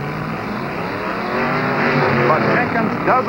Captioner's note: engines roaring